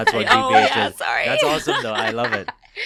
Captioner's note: chuckles